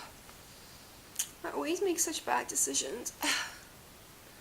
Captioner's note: sighs